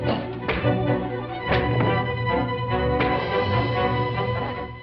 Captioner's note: punch thuds